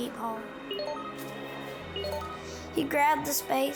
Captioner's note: robot beeping